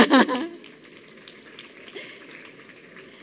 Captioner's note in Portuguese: Aplausos